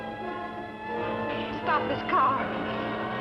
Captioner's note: siren blaring